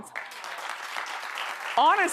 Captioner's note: audience applauds